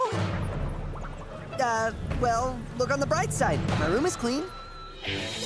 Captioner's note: flies buzzing